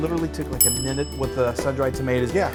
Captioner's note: bell dings